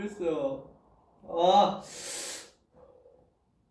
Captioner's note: breathes